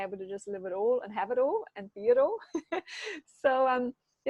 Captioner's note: chuckles